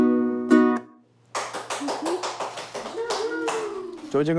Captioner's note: applause